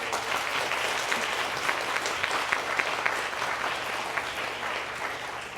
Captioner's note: applause